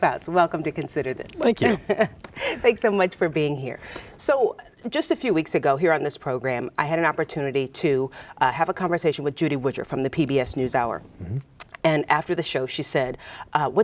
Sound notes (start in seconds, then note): 1.4 laughs